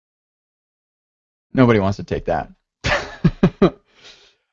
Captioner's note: laughs